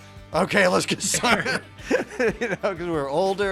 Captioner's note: both laughing